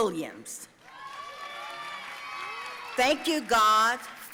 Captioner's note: audience cheering and applauding